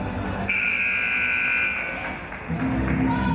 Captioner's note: buzzer